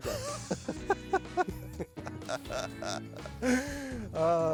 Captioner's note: laughs